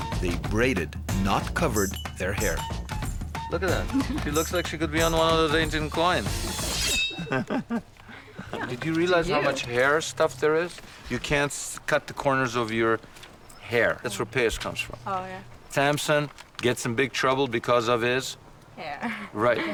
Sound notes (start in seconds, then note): 7.1 laughing